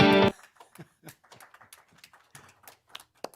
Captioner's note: applause